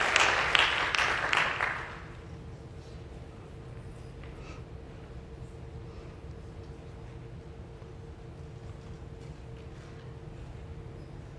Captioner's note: applause